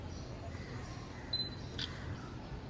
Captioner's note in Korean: 찰칵!